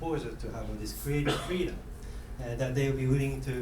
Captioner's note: coughing